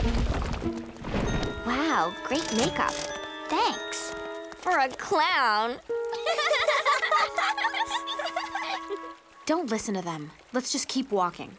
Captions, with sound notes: Wow! Great makeup. Thanks. For a clown. [laughing] Don't listen to them. Let's just keep walking.